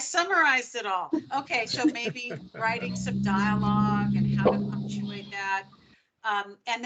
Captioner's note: laughing